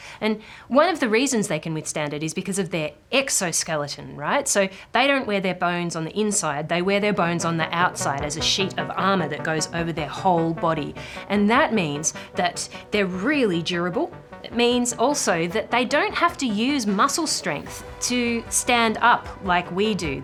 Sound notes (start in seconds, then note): none